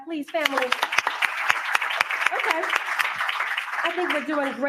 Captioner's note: applause